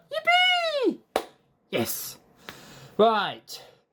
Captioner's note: clap